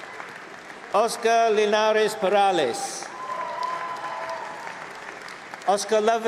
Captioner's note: cheering; applause